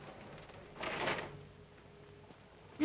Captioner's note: chains clatter